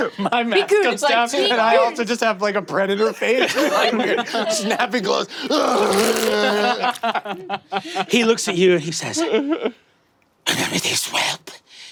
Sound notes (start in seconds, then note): 5.4 Murph groaning; 5.5 wet crunching; 5.6 players laughing